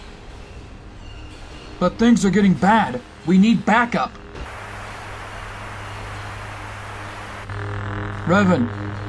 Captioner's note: static